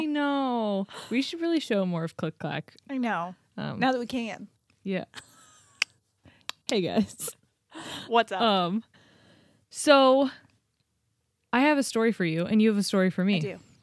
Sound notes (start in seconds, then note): 5.1 clicks tongue